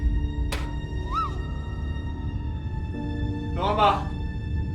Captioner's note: screaming